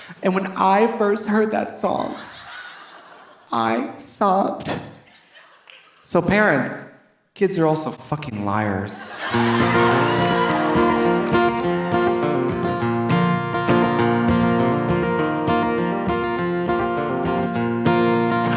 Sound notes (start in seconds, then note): 0.0 audience laughing; 5.0 audience laughing softly; 9.0 audience laughing; 9.1 audience cheering; 10.0 bright guitar music